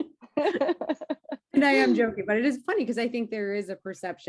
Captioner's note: laugh